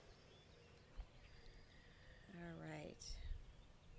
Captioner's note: breathing deeply